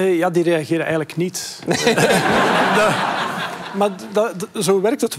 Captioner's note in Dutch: gelach